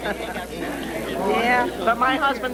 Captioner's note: laughs